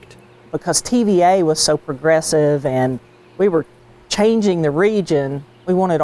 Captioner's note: pat